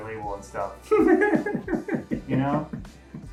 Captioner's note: giggles